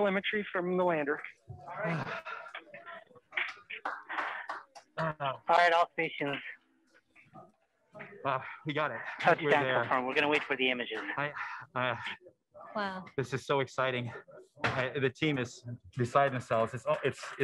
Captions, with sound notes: - Report this, still getting telemetry from the lander. - Fly all missions. (overlapping chatter) - This is so exciting. The team is beside themselves.